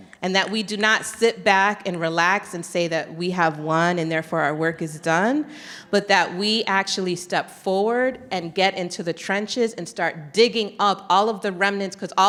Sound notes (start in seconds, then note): none